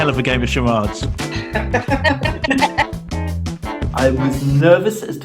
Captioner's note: everyone laughing